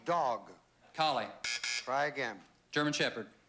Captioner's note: buzz buzz